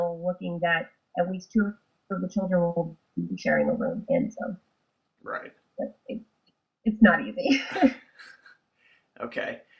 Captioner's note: laughs